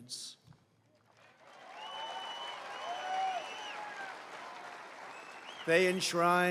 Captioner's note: applause